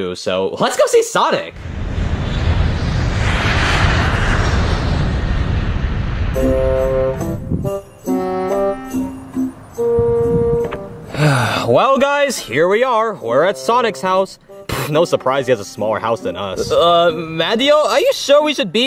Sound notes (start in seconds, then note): 1.5 engine roaring; 6.4 gentle music